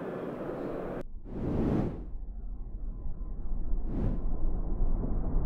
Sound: air whooshing

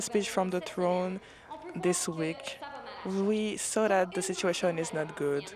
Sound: speaking French

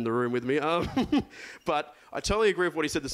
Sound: laughs

